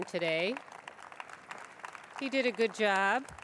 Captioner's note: applause